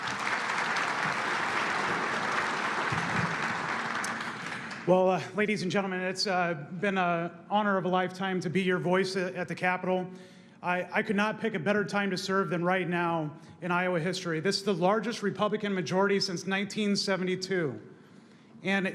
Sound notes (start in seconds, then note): 5.4 applause